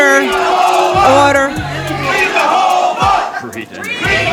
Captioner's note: crowd chants